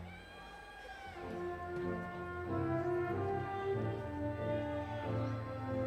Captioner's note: audience members exclaiming